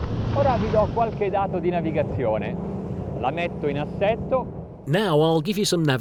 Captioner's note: speaking in foreign language